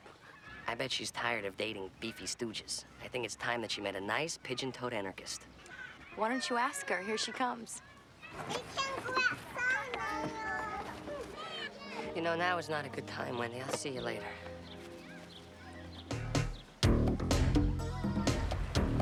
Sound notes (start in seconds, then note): 8.4 kids babble; 15.8 funky music